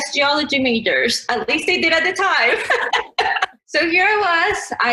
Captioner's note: laughs